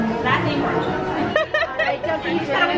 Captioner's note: laughs